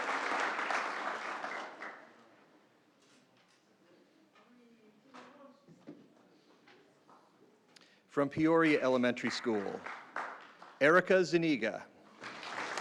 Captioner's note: applause